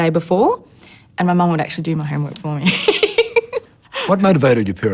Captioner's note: laughs